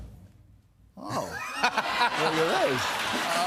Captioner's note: laughter